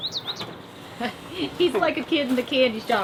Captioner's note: chuckles